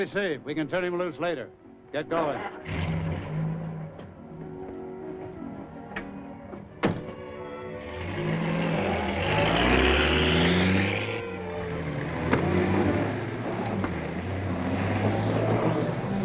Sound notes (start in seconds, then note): 7.0 engine rumbling